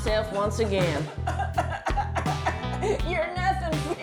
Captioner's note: sobs violently